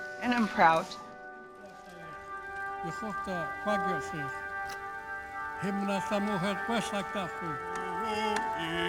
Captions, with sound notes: And I'm proud. (man speaking in Native language)